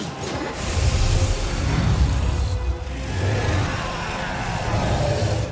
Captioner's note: creatures whooshing and growling